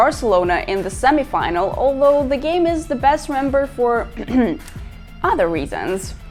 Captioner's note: cough cough